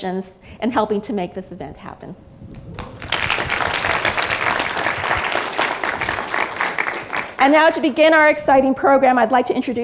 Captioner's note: applause